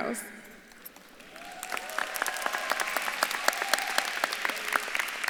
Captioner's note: audience claps and cheers